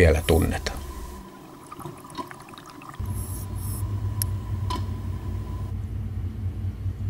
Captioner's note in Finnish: vedenalaisia ääniä